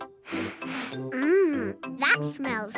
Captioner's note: sniffs